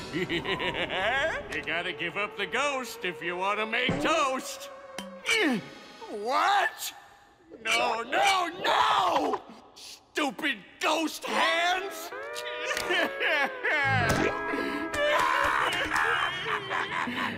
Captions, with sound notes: You gotta give up the ghost if you wanna make toast. What? No, no, no! Stupid ghost hands! [sobbing] [laughing]